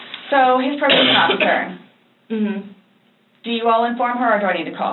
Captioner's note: coughs